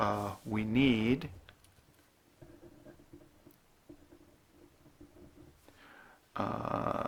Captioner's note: writing